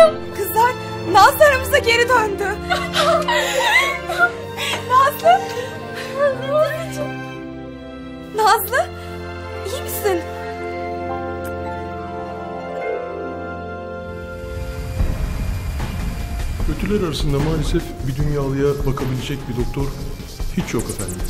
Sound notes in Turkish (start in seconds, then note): 2.6 sevi̇nç- gülüşme sesleri̇